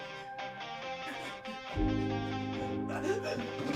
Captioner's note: Larry gasping